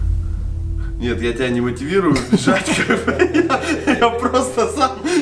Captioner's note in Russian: панический смех